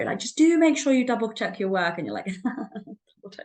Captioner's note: chuckles